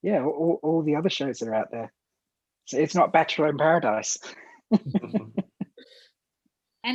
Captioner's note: laughter